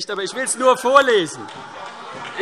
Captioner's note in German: Heiterkeit und Beifall